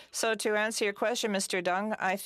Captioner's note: speaking French